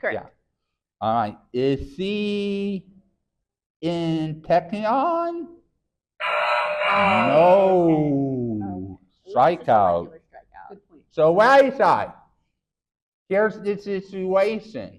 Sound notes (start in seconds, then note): 6.2 error sound effect; 10.0 faintly speaking